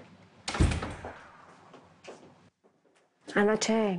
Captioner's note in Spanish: Ruido al cerrar